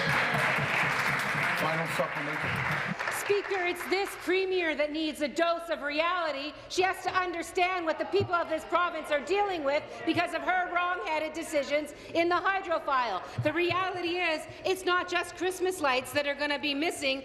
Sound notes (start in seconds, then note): 3.0 applause